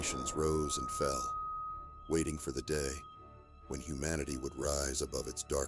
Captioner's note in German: Windgeräusche